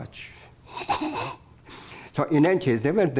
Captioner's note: laughs